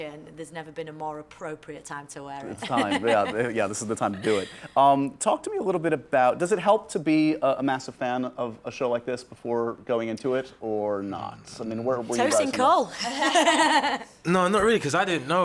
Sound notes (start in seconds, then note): 13.0 laughter